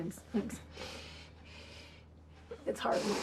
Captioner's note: sniffling